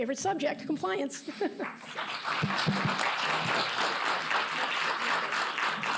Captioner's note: applause